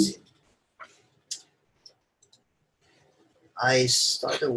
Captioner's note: mouse clicks